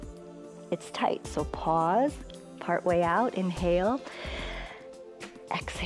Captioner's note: exhales; inhales